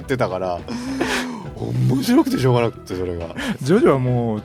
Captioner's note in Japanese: 笑い